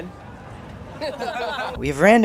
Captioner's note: boys laugh